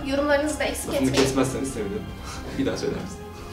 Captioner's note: intimidating breathing